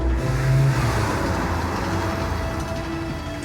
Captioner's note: none